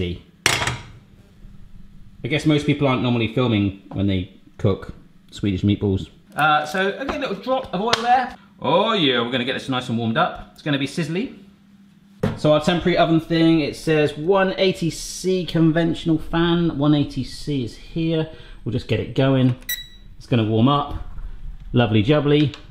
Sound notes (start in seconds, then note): 19.5 beeps